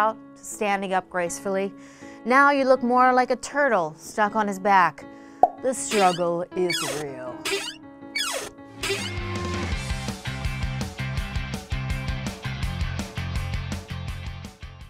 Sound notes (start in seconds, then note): 0.0 sad piano music; 8.1 shell creaks; 9.7 light upbeat music